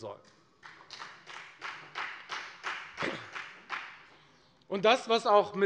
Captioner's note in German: Beifall bei der FDP